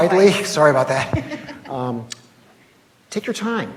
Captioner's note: laughs